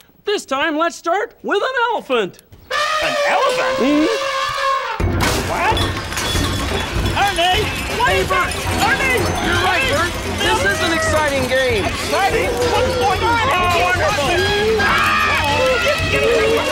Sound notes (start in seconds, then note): 2.6 elephant trumpeting; 4.6 crashing; 14.1 animal calls and loud crashing